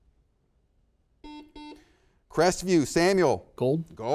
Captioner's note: buzzer beeps